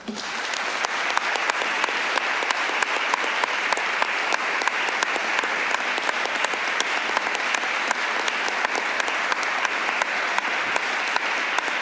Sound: applause

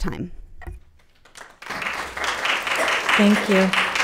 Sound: attendees applauding

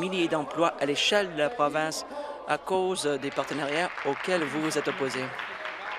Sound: applause

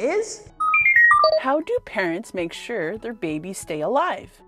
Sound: computer beeping

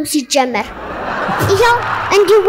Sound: laughter

